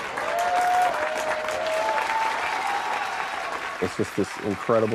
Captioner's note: crowd cheering